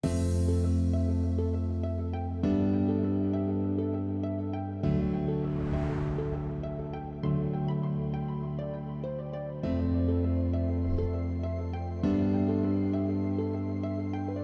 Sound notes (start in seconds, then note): 0.1 gentle electronic music; 5.0 letters whooshing